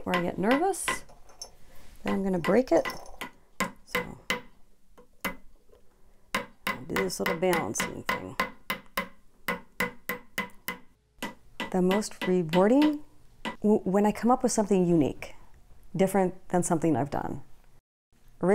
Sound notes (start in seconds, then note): 6.3 hammering